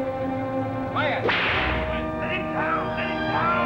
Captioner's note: whip cracks